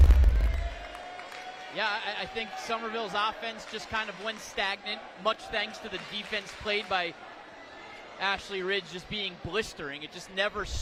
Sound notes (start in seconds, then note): 5.2 applause